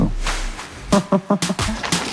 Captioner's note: laughs